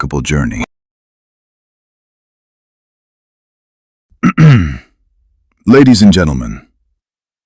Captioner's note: cough and clears throat